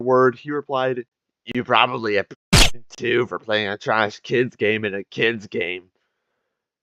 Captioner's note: silenced gunfire